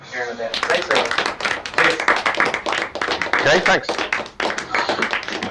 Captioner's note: applause